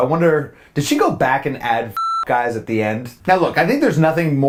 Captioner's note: beep